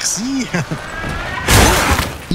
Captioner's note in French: Bruits de fracas